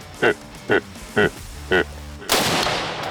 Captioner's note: barking